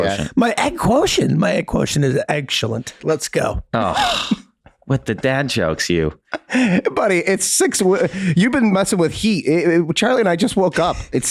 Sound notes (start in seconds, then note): 3.8 Glenn sighs